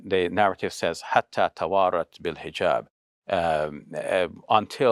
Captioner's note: speaking Arabic